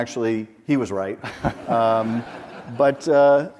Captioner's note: audience laughs